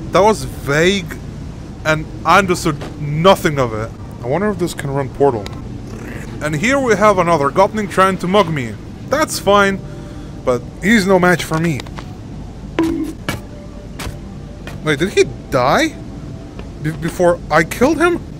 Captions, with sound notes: That was vague... And I understood nothing of it. I wonder if this can run Portal?... And here we have another gopnik trying to mug me! That's fine. But he's no match for me! *bonk.wav* Wait did he die?... Before I tried to kill him*?